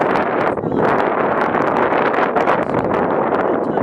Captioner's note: wind